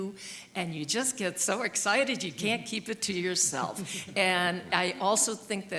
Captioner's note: chuckles